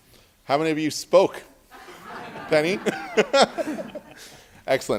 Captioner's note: laughter